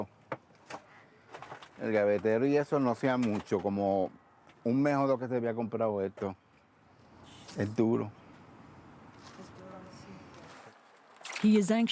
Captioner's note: speaking spanish